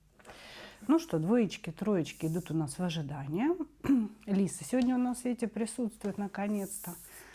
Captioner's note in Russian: откашливается